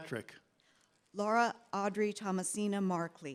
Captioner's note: none